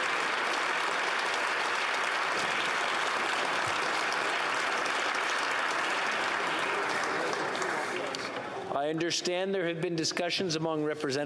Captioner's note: applause